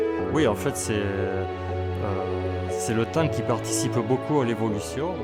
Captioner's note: speaking in foreign language